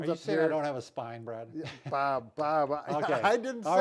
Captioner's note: laughs